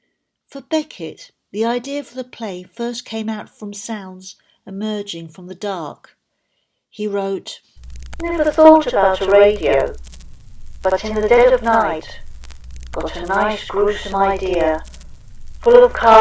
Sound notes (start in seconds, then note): 13.4 background radio crackle and hiss